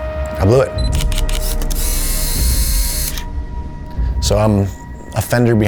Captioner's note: camera shutter